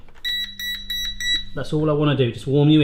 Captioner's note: beeping